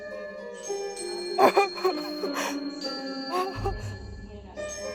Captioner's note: music, whispers; Cora cries; music, whispers